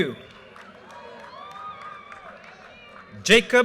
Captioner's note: audience cheers and applause